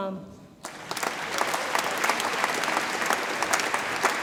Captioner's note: audience applauds